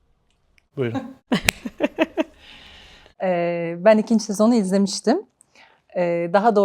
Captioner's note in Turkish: kahkaha